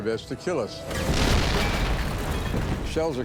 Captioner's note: shells exploding